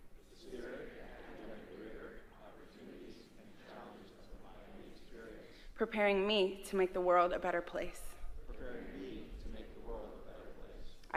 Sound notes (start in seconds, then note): none